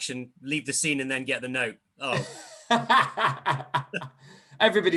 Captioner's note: laughter